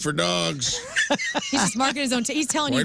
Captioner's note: laughing